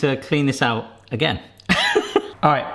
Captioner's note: laughs